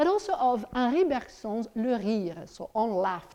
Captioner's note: speaks in foreign language